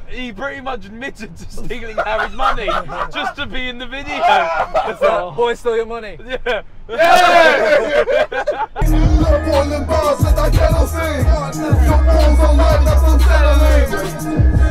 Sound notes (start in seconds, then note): 6.9 laughing